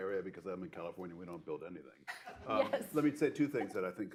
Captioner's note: laughter